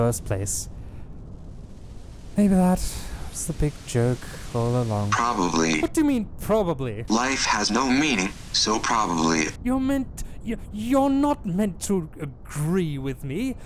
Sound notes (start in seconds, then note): 10.2 stammering